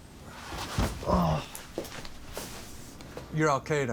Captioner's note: groans